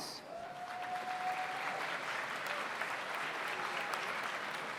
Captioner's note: audience applauds